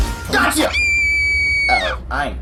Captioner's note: screams